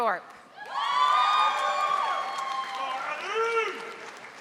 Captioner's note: audience applauding